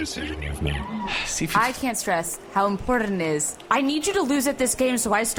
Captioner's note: sighs